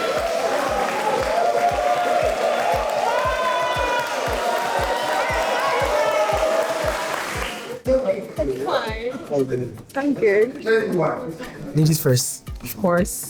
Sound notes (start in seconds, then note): 0.0 crowd cheering; 5.2 crowd chattering